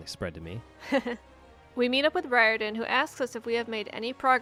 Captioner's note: laughs